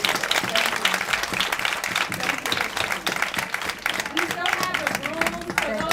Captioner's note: applause